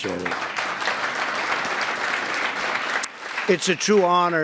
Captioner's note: applause